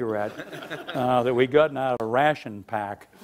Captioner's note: laughing